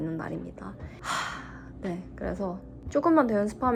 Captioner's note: sighs as a habit